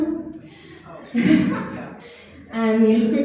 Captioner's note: laughs